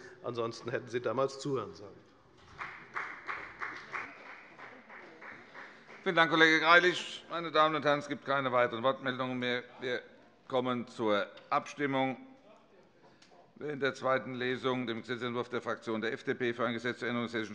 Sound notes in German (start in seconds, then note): 2.4 Beifall bei der FDP